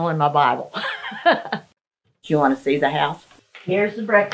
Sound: chuckles

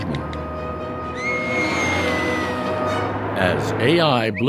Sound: scream

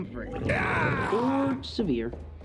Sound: groaning in pain

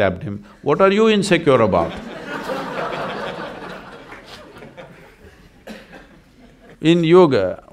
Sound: laughter

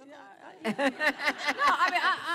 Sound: laughter

